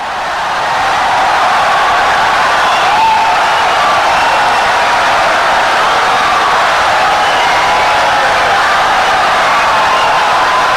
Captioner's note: wild applause and cheering for 17 seconds